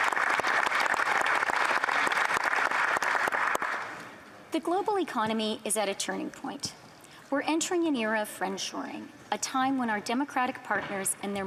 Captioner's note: applause